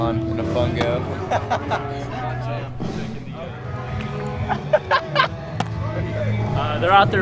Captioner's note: laughter